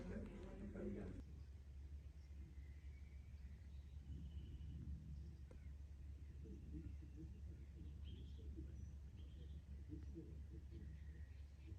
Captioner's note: quiet nature sounds